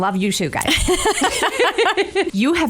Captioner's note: both laugh